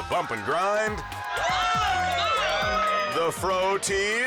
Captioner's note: crowd cheers